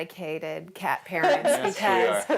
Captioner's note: laughs